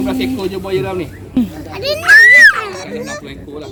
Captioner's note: kids screaming